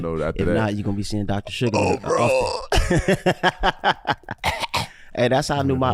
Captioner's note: croaking